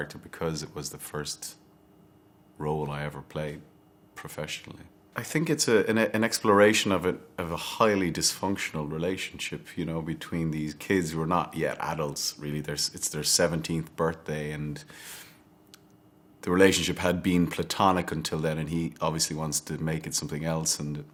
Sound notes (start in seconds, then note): none